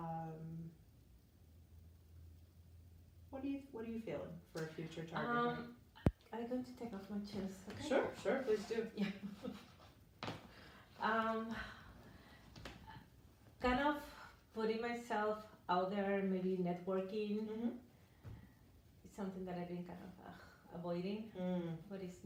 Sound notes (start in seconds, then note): 8.9 chuckles; 10.2 shoes thudding